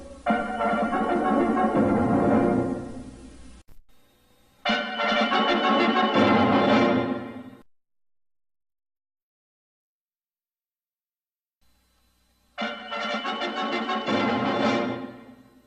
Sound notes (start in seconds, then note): 0.2 retro fanfares resuming; 8.0 silence; 12.6 retro fanfares resuming